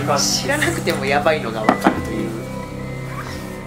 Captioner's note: laughs